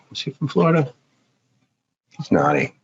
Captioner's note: laughs